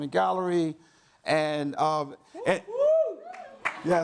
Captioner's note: audience cheers